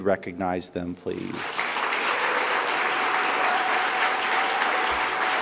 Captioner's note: audience applauds